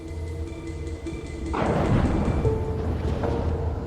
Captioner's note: thunder